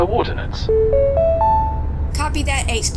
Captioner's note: notification chime